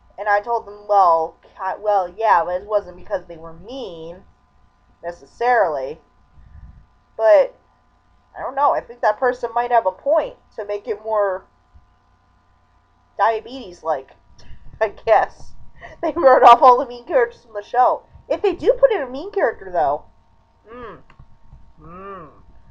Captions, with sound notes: And I told them "well, ca- well yeah, but it wasn't because they were MEAN...necessarily." But...I don't know, I think that person might have a point! To make it more... diabetes-like. (chuckling) I guess. They wrote off all the mean characters from the show! If they do put in a mean character though... Mmm. m m m m m.